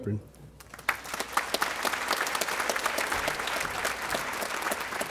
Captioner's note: audience applauding